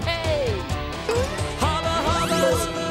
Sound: button beeps

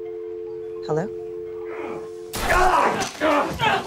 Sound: both grunting

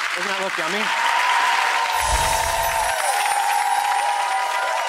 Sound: cheering

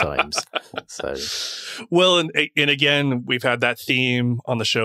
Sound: laughing

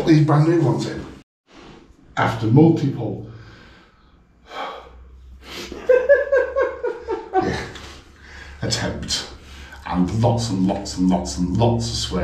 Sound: sigh

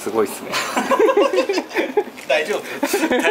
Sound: laughs

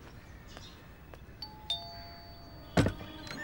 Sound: footsteps; doorbell ringing; door opens

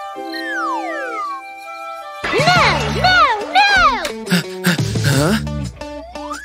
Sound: panting

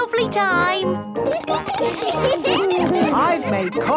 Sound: laughter

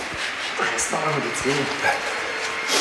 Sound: strained voice

